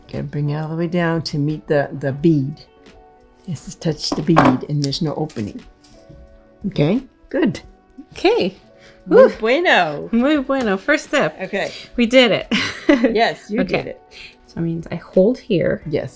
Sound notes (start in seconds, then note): 12.5 laughs